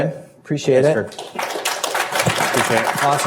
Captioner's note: applause